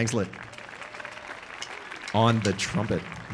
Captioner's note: audience applauding